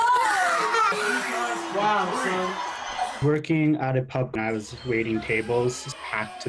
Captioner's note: crowd Noise